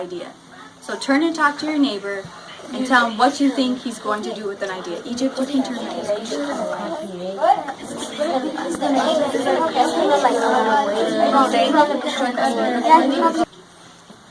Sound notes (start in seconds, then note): 4.5 students discuss